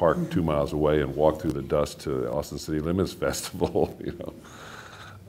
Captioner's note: laughing